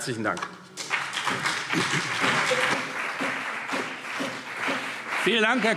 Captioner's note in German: Beifall CDU und BÜNDNIS 90/DIE GRÜNEN